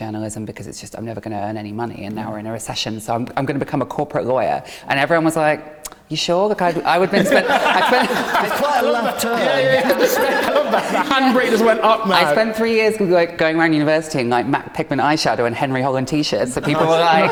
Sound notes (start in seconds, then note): 6.6 laughing